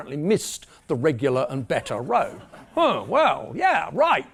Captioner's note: laugh